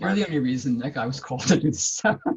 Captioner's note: laughs